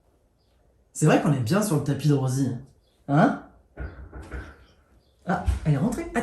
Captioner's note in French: Toc toc toc